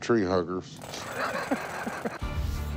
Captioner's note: laughter